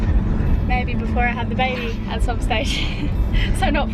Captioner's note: laughs